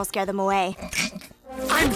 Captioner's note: snickers